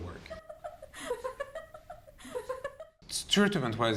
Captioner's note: woman laughing on a TV screen